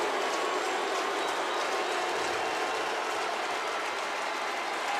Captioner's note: crowd cheering